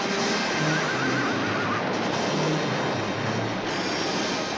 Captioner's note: horse whinnies